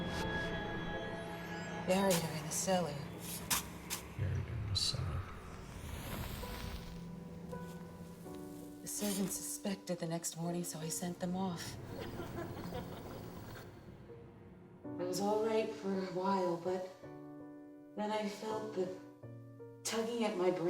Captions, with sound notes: - "Buried her in the cellar." - "Buried her in the cellar." (sizzling) - "The servants suspected the next morning, "so I sent them off. (laughing) "It was all right for awhile "but then I felt the tugging at my brain."